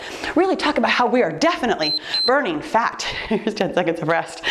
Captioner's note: timer beeps